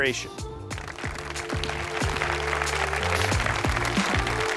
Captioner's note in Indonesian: Tepuk tangan